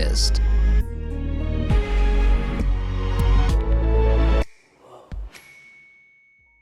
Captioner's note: upbeat adventurous music; screen chiming